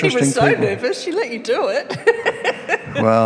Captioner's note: laughs